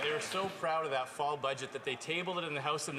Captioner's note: some Applause